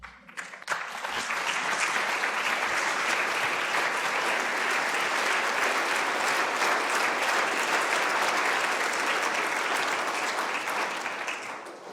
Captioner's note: applause